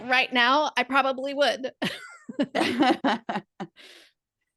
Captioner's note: laugh